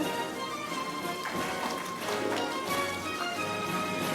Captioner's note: audience applauding; orchestral music